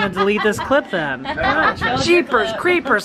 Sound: laughter

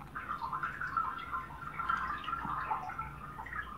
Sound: water running down a drain

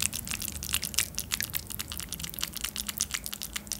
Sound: meat sound

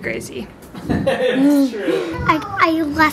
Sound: laughing

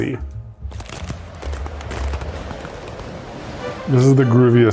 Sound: ice crackling; wind swirling

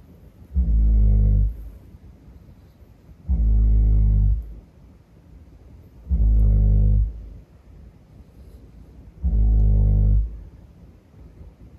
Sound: snoring

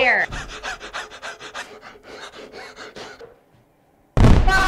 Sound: Scout crying; Scout screaming; fire cracker exploding

